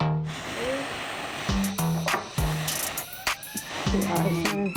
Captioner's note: tense hip-hop music; blowing